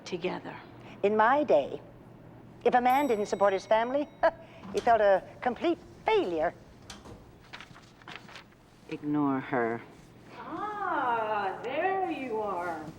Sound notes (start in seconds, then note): 4.1 scoffs